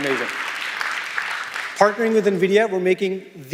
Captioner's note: applause